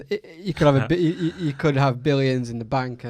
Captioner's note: laughs